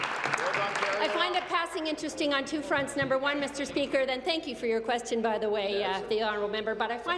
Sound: applause

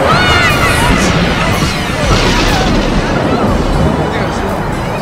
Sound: thundering; dramatic music

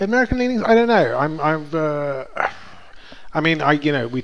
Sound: sighs

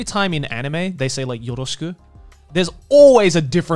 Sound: speaks Japanese

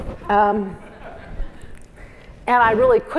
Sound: laugh

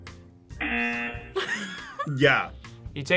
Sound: buzzer; laughs

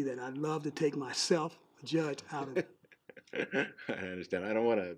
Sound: laughing

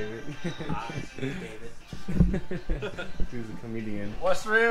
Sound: laughing

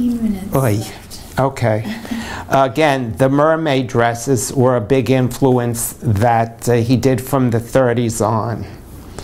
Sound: laughter

